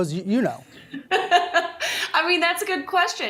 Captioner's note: laughing